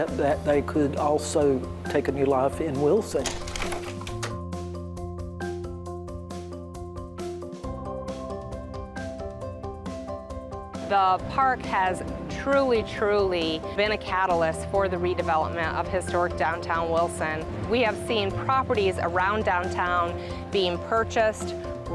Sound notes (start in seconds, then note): 2.6 whimsical music; 3.1 slide projector clicks